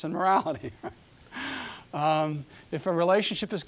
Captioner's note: chuckling